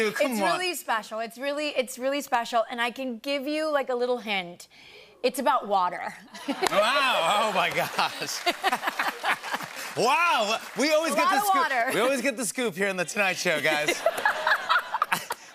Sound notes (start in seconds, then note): 7.6 laughter; 8.4 applause; 13.4 laughter